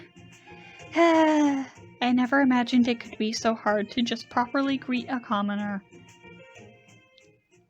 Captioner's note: sigh